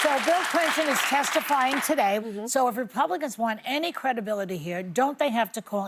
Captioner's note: applause